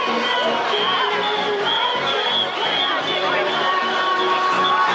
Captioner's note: upbeat music; whistles blowing